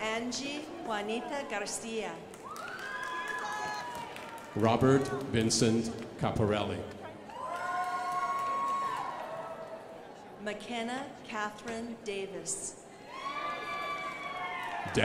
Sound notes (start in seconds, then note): 2.3 crowd applauding; 13.6 crowd applauding